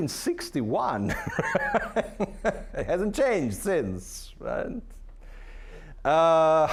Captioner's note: laughing